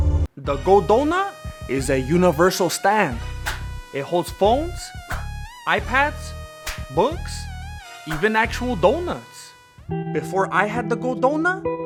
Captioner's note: desperation noises